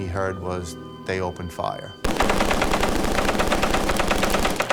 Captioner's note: rapid gunfire